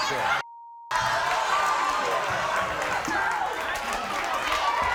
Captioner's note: beep; crowd cheering